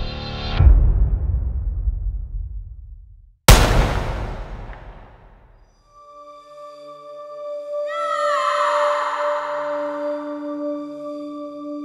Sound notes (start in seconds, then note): 3.4 gun fires; 7.8 screams